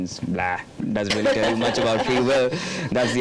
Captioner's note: laughing